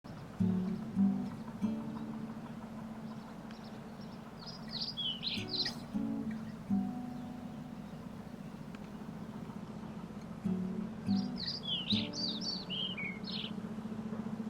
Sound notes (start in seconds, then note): 0.2 soft guitar music; 3.9 birds chirping